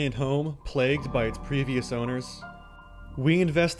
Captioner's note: voiceover